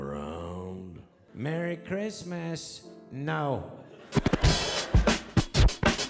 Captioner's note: audience laughing; upbeat instrumental music